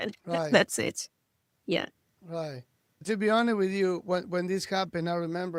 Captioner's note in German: lacht